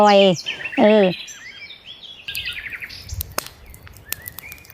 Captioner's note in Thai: เสียงนกร้อง